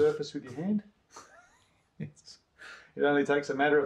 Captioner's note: chuckles